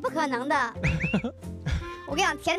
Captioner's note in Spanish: Risa sin palabras